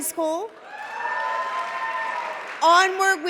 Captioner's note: cheering